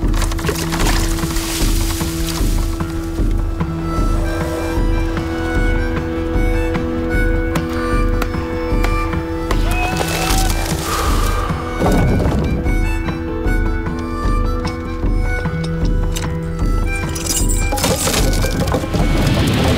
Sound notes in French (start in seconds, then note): 0.1 éclaboussement; 10.1 fracas de billots; 17.1 tintement de chaînes